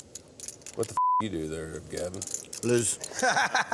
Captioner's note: beep; laughing